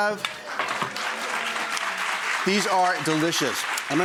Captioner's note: audience clapping